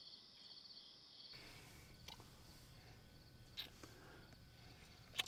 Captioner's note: lips smacking